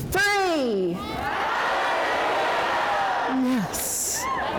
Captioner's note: crowd yells